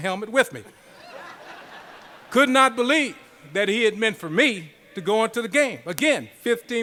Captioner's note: laughter